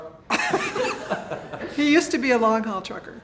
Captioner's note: laughing